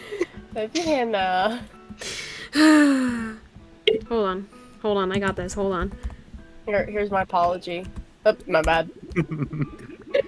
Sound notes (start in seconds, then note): 2.0 sighs; 9.0 chuckles